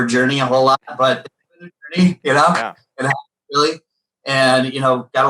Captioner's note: laughs